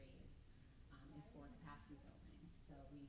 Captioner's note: stammers